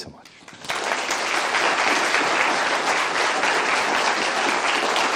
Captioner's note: applause